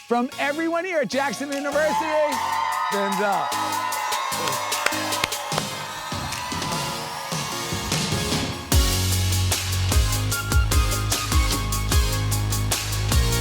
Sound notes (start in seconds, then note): 1.2 crowd cheers; 4.5 claps; 4.5 upbeat music